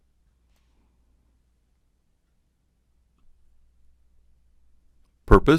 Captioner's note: silence